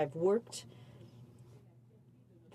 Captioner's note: speaking in french